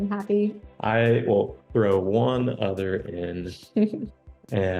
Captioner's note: chuckles